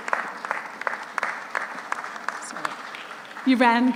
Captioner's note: audience applauds